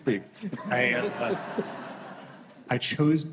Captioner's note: laughter